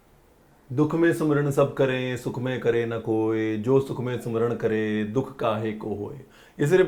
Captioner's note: Reciting couplets of Kabir Das